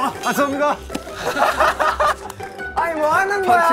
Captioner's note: laughing